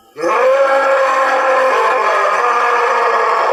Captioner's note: animal roaring